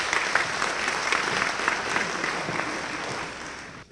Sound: applause

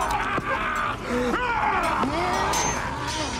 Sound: yells

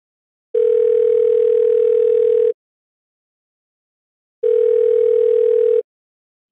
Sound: phone ringing

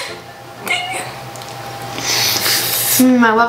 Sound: both slurp

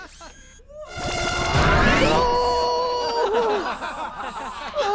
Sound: painful yelling

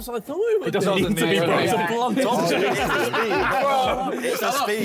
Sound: all chattering; all laughing

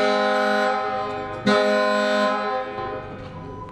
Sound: car

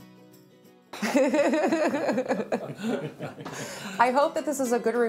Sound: everyone chuckling

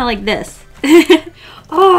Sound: laughs

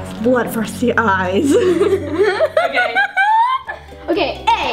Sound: laughs

